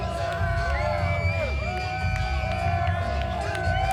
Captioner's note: crowd cheering